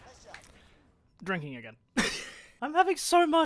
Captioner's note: laughs